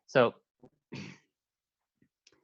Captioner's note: clears throat